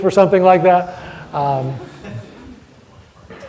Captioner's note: audience laughter